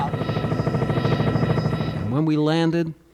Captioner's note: helicopter propeller